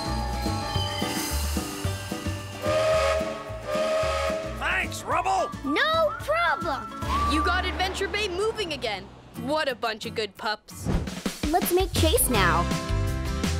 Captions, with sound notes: [horn blowing] - Thanks, Rubble! - No problem! You got Adventure Bay moving again! What a bunch of good pups! Let's make Chase now.